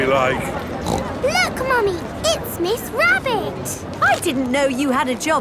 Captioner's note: snorts